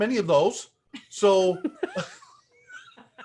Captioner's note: laughs